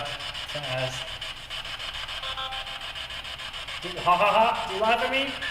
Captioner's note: static buzzing